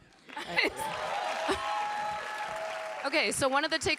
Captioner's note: audience applauding and cheering